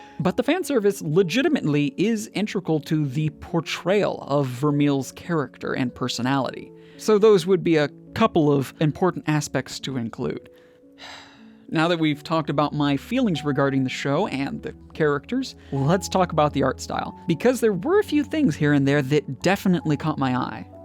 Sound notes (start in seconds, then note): 11.0 sigh